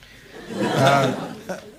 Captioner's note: laughter from crowd